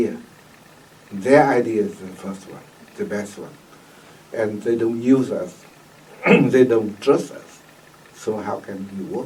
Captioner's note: clears throat